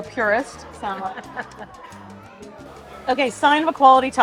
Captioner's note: carefree music continues; chuckling